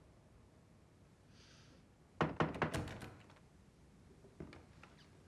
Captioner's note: la porte s'ouvre en grinçant